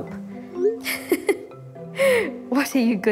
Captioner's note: laughter